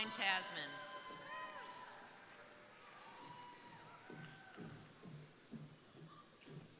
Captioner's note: crowd applauding; crowd cheering